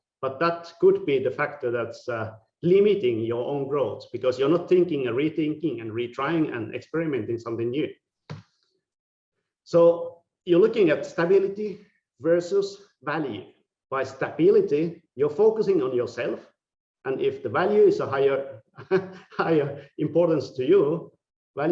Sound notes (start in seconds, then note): 18.7 laughing